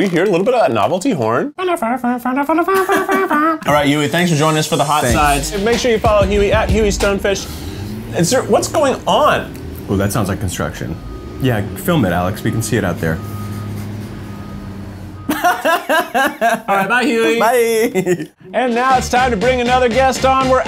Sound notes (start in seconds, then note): 1.8 hums, imitating a horn sound